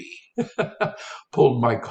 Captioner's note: instructor laughs